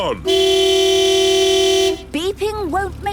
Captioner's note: honking